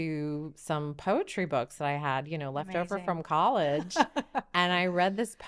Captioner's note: laughing